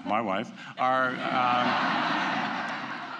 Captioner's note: laughter